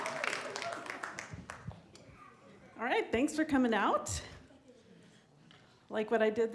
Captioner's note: applause